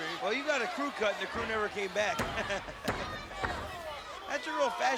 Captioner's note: laughs